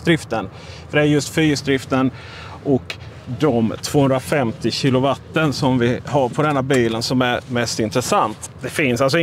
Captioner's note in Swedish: motoreffekt